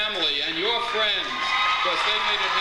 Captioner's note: audience cheers